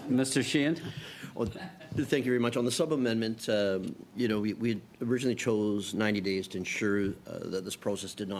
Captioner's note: laughter